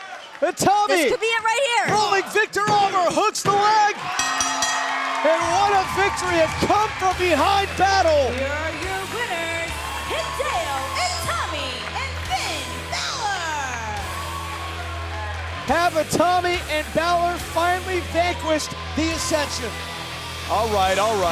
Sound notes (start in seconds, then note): 4.1 bell ringing; 14.9 cheers and applause